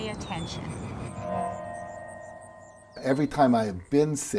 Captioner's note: birds chirping; eerie music